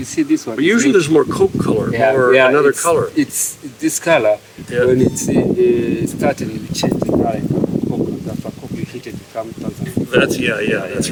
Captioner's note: wind noise